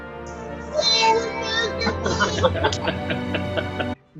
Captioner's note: cheering